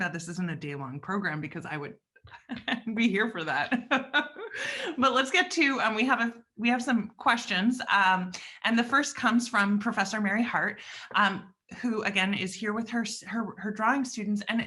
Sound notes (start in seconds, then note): 2.3 chuckles; 3.6 laughs